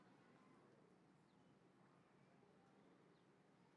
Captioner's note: none